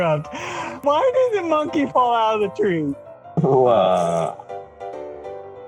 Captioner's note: laughter